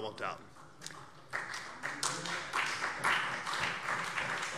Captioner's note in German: Beifall CDU und BÜNDNIS 90/DIE GRÜNEN